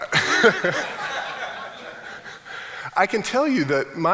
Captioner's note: laughing